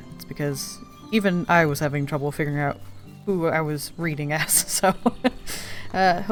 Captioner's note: laughs